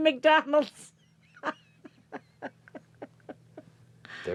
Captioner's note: laughs; Mrs. McDonald chuckles